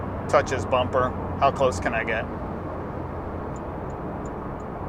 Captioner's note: turn signal beeping